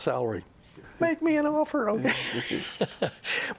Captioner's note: laughs; laughter